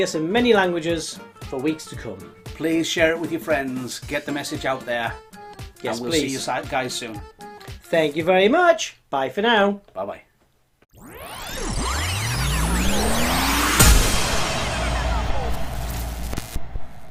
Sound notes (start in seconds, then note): 10.9 tape rewinding